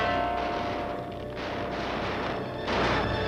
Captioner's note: dramatic note plays; gunshots